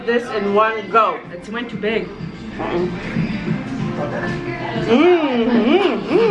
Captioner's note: laughs